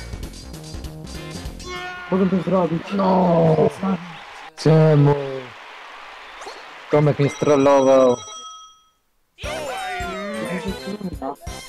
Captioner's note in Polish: Aplauz